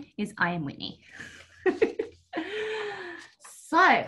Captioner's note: laughs